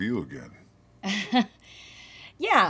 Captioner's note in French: rire poli